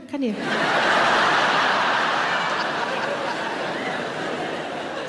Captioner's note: audience laughing